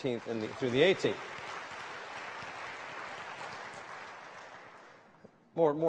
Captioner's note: applause